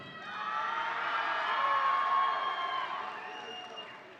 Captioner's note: audience cheering